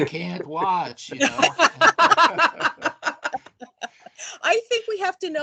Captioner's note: laughing